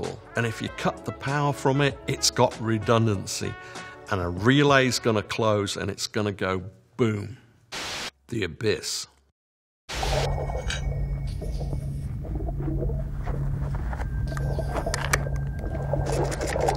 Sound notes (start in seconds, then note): 10.0 water gurgling; 10.2 suspenseful music